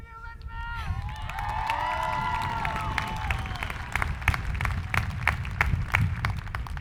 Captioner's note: people cheering; hands clapping